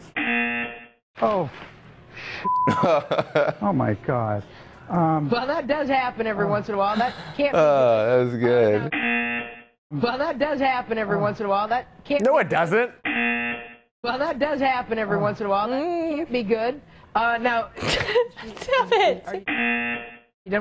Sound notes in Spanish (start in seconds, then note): 0.1 zumbador; 2.6 risas; 8.9 zumbador; 13.0 zumbador; 16.1 gemidos; 17.8 Risas; 19.4 zumbador